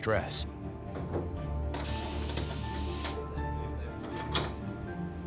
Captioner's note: device pumps